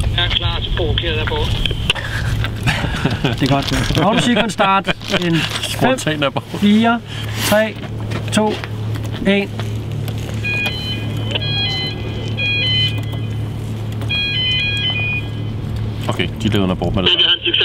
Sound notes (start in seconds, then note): 10.3 warning siren